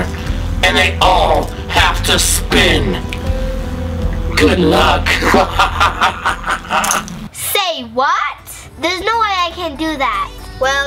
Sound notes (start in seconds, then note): 5.0 evil laughter